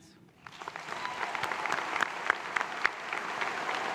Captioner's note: applause